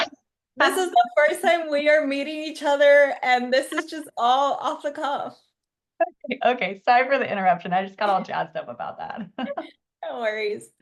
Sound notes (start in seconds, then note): 5.8 laughs; 9.3 laugh